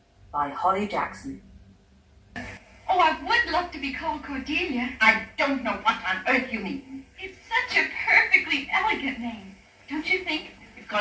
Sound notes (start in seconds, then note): 2.5 Anne of Green Gables 1934 Movie plays on TV